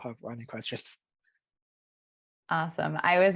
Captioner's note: laughs